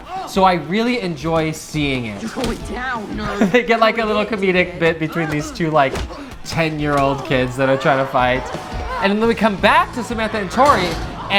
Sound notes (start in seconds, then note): 3.1 laughing